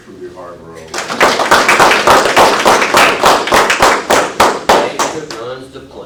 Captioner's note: applause